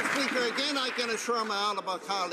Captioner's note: some Applause